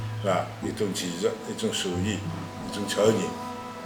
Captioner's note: wu Chinese